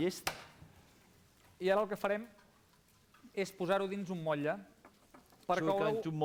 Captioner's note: non-english speech